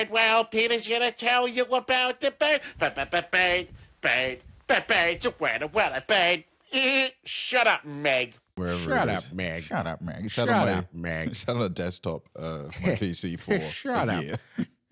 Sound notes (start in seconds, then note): 8.6 laughs